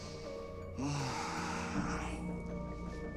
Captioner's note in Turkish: Nefes sesi